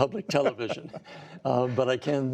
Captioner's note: laughter